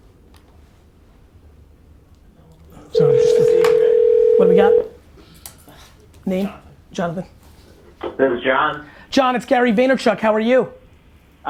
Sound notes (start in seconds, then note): 2.9 phone ringing